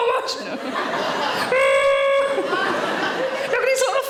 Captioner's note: audience laughing; Sarah groaning